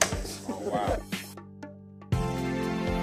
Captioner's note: sounding gavel